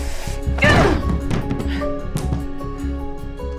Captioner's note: thumping